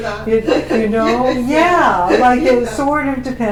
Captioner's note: laughter